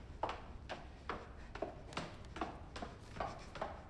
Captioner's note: shoes clacking